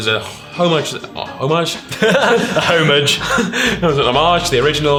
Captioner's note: laughing